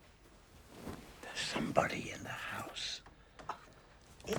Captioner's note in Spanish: susurrando